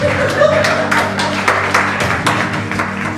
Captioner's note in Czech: potlesk